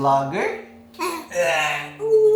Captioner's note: grunts